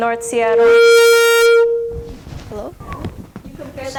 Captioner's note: microphone feedback